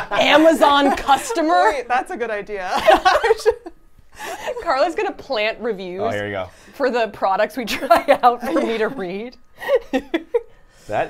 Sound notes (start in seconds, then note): 2.6 laughs; 8.4 laughs